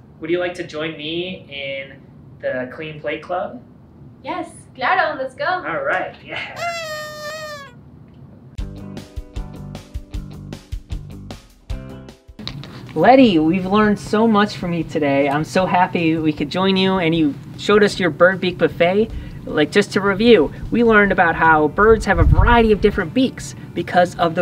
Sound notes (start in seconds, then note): 6.5 party blower; 9.3 up-beat garage band music